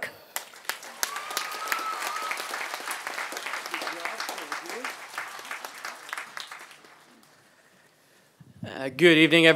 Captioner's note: applause